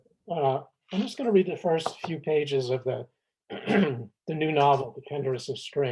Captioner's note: clears throat